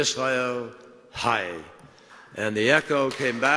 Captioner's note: applause